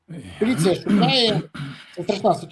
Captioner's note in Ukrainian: кашель; прочищення горла